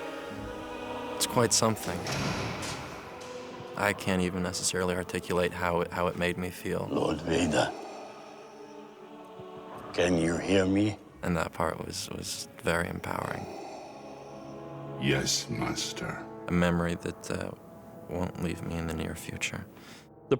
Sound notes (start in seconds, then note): 7.6 mechanical Breathing; 14.3 deep Voice